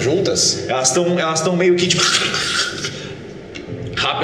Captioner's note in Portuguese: grunhidos